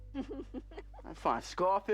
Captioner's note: laughing